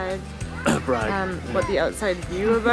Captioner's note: coughbragcough